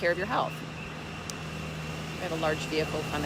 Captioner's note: motor rumbling